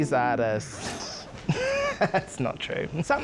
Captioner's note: laughs